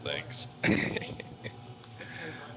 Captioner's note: laughs